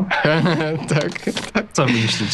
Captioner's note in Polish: śmiech